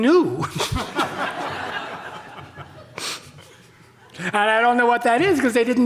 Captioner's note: audience laughing